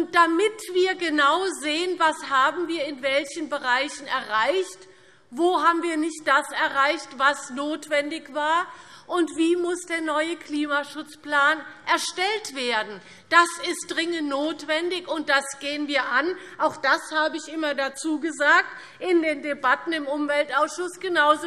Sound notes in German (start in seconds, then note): none